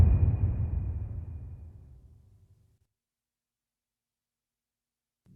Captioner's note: dramatic sound